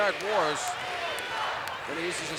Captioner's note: applause